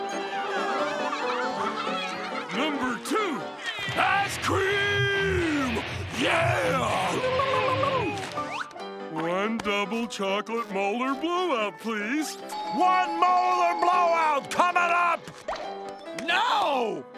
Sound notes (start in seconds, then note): 0.2 music playing, laughing; 6.0 screeching